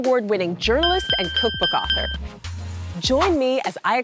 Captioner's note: bell dinging